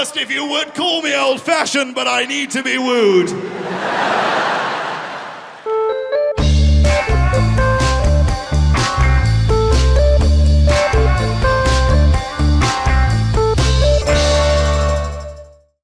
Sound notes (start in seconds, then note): 3.3 crowd laughing; 6.5 upbeat music